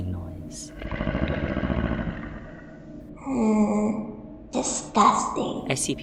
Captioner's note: groans